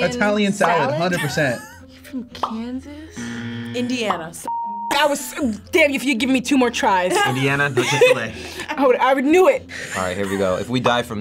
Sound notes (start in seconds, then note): 3.2 buzzer buzzing; 7.1 laughing